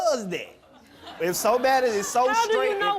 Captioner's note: laughing